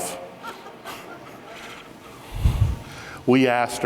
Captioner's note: audience chuckles